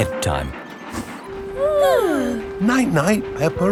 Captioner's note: both yawning